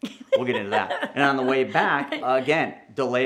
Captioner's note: laughs